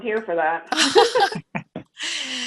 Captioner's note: chuckling